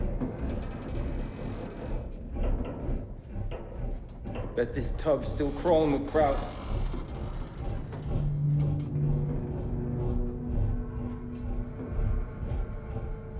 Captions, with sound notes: - Bet this tug's still crawlin' with krauts. (boat chugging) (pensive music)